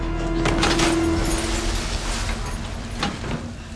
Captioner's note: water splashing